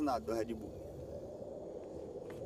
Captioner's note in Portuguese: vento soprando